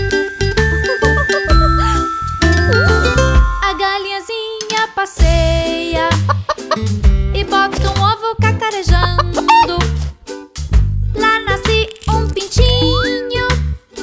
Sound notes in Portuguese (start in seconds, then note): 6.3 som de galinhazinha; 9.0 som de galinhazinha